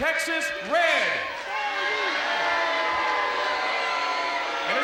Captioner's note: crowd cheering